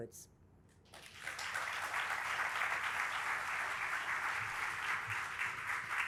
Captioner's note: audience applauding